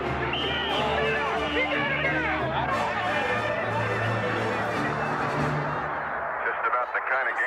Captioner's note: whistle blows